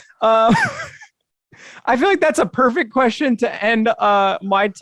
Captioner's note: chuckles